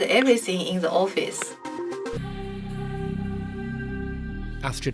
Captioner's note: voiceover